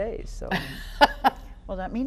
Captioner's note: laughing